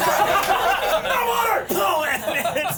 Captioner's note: everyone laughs